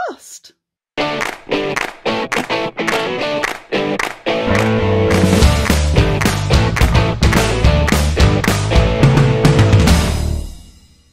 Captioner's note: claps